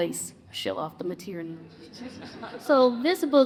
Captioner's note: audience chuckles